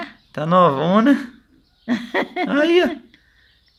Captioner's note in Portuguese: risos